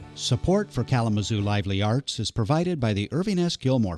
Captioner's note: voiceover